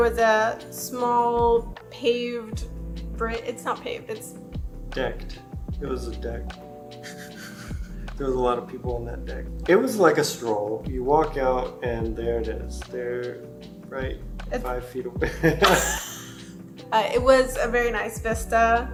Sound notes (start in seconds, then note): 7.0 stifles laughter; 15.3 laughing